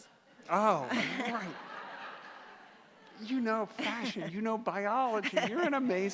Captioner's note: laughter